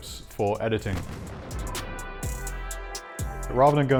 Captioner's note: bomb explodes